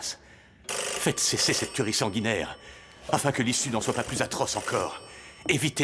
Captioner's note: phone begins ringing